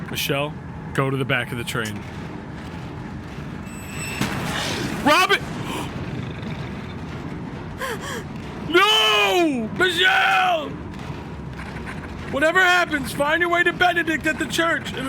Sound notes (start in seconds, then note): 5.9 gasps